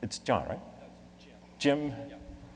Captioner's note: voiceover